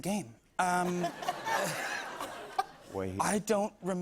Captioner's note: laughter